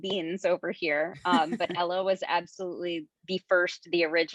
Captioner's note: chuckles